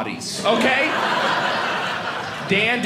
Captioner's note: audience laughing